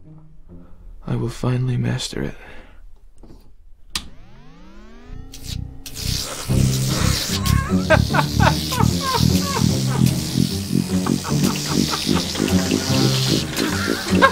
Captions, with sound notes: I will finally master it. [Humming and sparks] [Laughter]